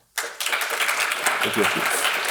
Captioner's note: audience applauding